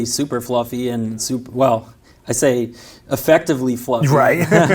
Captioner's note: laughs